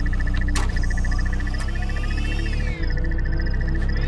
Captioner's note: device whirring